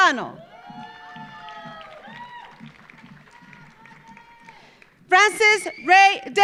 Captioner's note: audience cheering; audience applauding